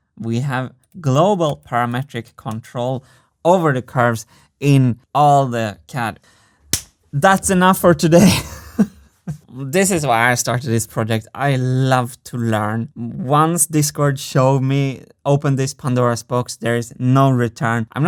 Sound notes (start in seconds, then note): 6.7 claps hands; 9.1 laughs